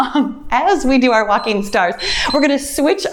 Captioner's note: timer beeps